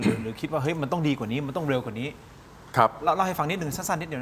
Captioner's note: clears throat